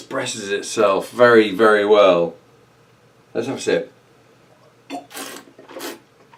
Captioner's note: slurping